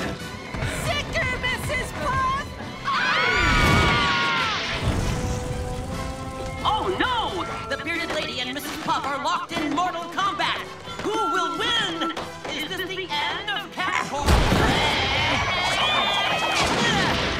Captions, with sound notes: Sic her, Mrs. Puff! [screaming] Oh, no! The bearded lady and Mrs. Puff are locked in mortal combat? Who will win? Is this the end of Kamp Koral? [screaming]